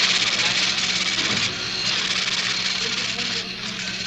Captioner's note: printer sounds